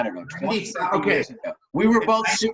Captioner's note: murmurs